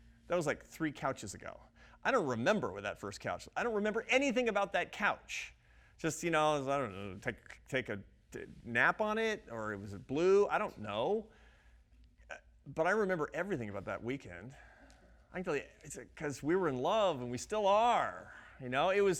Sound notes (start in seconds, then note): none